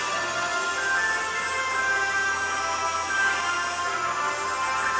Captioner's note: table saw buzzing